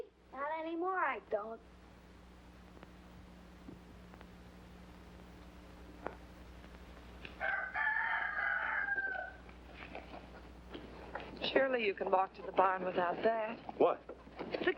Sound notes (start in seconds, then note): 7.4 rooster crowing